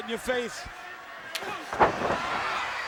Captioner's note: crowd cheering; crowd chatter